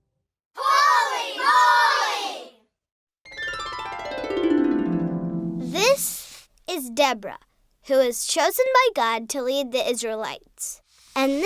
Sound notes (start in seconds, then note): 3.3 harp music; 5.8 voiceover